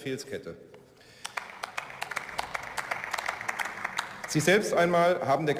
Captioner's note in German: Beifall